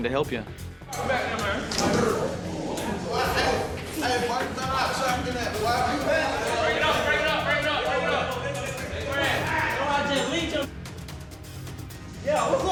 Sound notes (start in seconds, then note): 1.0 scuffling; 2.9 shouts of encouragement